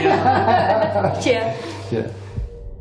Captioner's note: laughing